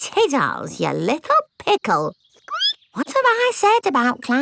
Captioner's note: squeaks